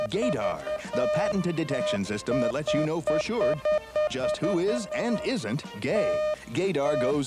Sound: beeping; male Announcer over beeping

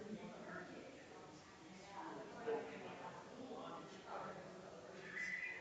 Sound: people chattering distantly continues

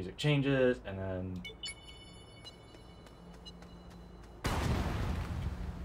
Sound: dynamite activation sound echoes through the cave

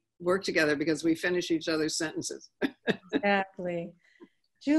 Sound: laughing

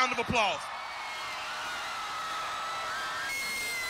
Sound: applause and cheering

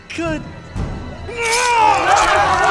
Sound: snap; crowd exasperated

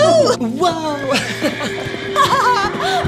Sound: horse neighing; both giggling

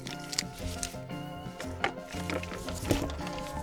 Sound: laughs

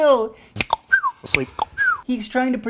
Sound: cluck-snap-whistle!

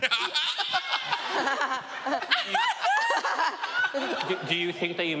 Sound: laughing

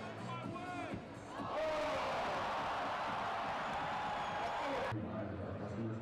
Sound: crowd groaning

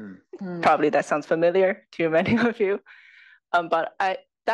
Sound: laugh

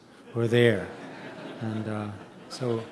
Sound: audience chuckling

